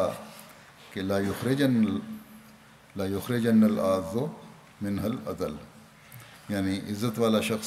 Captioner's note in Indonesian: Bahasa Arab